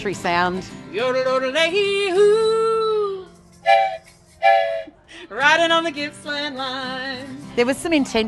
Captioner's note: train whistle